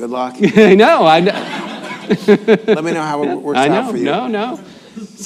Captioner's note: laughs